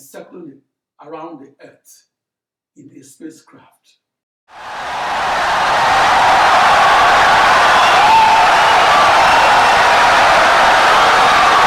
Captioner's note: wild applause and cheering for 17 seconds